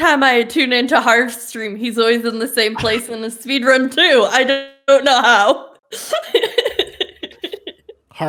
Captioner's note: laughter